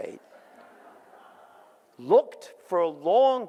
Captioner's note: audience laughs